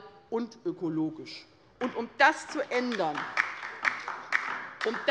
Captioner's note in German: Beifall bei der LINKEN